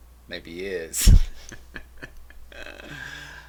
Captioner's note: laughing